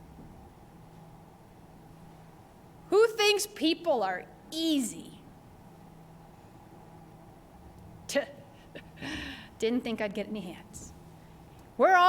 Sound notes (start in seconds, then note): 8.6 chuckles